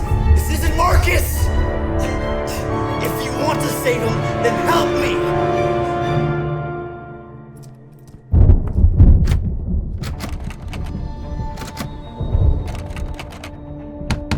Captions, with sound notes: This isn't Marcus! If you want to save him, then help me! (dramatic music) (thunder booms)